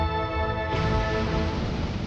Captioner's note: rock falling